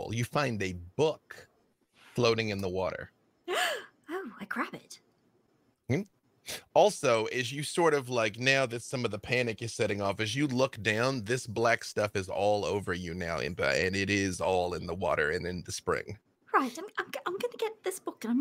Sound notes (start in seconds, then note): 3.7 gasps